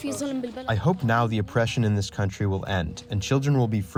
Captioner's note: through translator